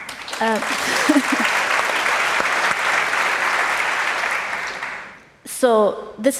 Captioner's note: applause